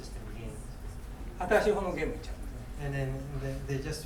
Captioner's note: speaking in foreign language